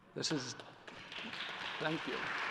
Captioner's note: applause